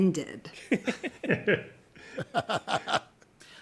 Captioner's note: chuckling